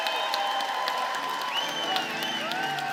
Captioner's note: cheers and applause